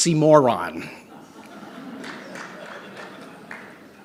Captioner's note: laughter